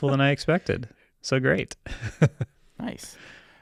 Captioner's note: laughs